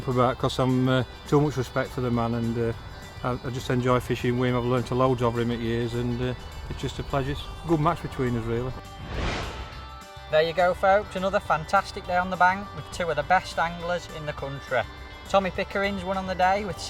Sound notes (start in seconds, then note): 8.9 whooshing